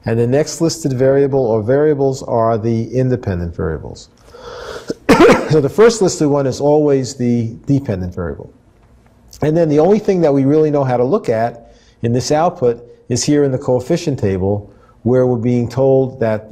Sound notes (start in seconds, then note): 4.8 cough